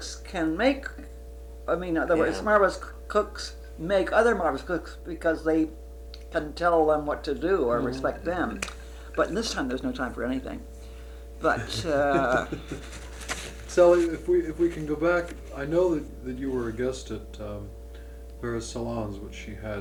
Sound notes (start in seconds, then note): 11.4 laughs